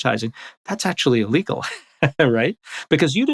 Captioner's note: laughs